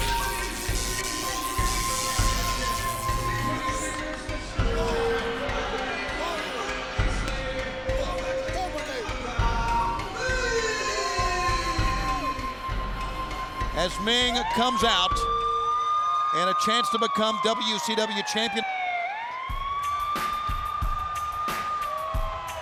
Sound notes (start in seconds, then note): 15.3 alarm blaring; 19.7 hip hop music